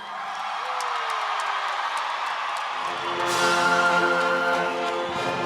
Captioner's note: audience applauding and cheering